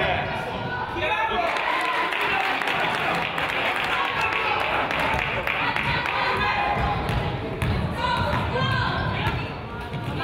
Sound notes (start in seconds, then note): 1.4 crowd applauds